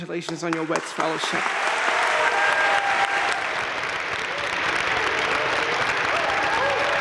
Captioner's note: crowd cheering and applauding